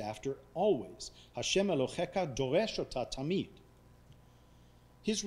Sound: speaking foreign language

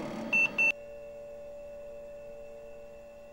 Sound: beeping

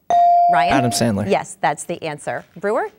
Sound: dinging

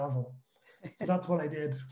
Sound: chuckles

